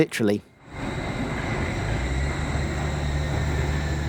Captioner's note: sound of a schwebebahn train passing overhead